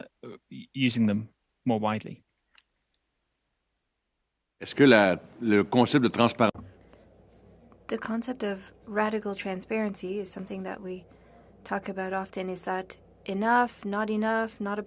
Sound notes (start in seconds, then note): 11.0 speaking French